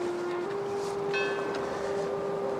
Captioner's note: bell ringing